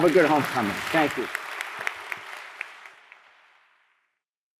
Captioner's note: applause